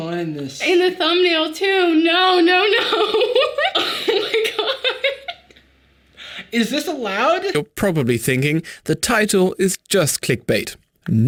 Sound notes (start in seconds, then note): 2.4 laughing